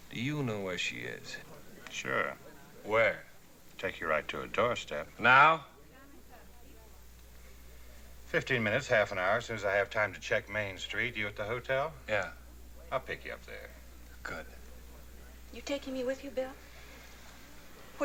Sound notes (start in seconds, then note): none